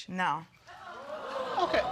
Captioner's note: audience exclaim